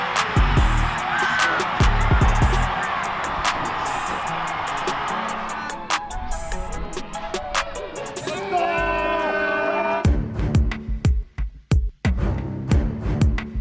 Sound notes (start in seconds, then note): 0.1 team and crowd cheering; 4.6 crowd roaring; 7.0 thumping music; 9.8 crowd cheering